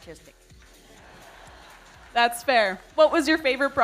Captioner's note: audience laughing